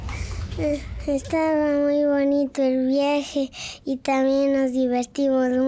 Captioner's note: speaking in a foreign language